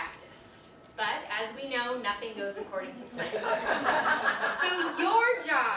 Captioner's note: audience laughter